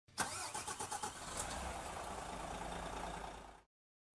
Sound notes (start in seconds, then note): 0.1 vehicle starting